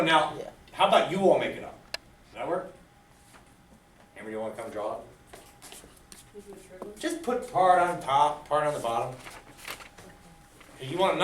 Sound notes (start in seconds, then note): 6.5 student speaks softly